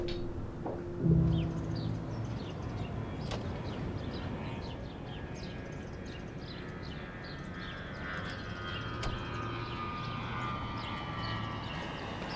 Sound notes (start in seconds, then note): 1.5 birds chirping; 4.2 plane whining